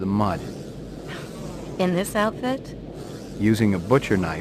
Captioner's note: scoffs